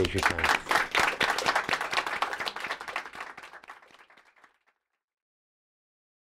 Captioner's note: applause